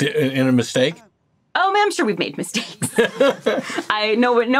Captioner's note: laughing